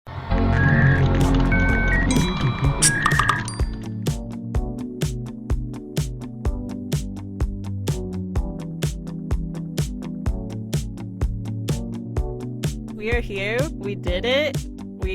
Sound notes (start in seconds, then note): 0.4 overlapping technological sounds; 5.6 chill music